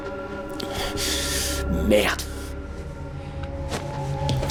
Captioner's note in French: parle russe